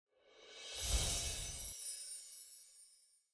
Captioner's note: ethereal twinkling